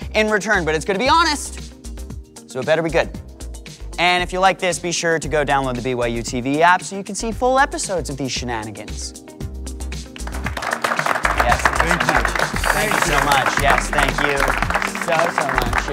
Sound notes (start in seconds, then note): 10.1 applause